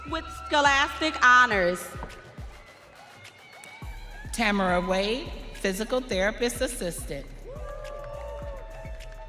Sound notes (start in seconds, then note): 3.1 audience cheering; 9.0 audience cheering